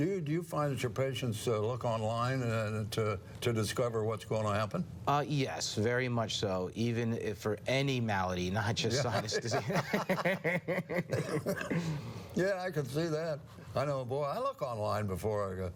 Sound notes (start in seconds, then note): 9.1 both laughing, coughing